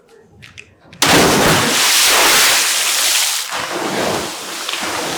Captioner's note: water splashing